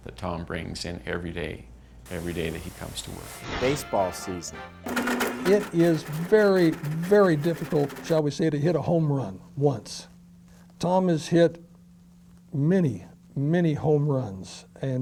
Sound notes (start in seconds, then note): 4.8 blender grinds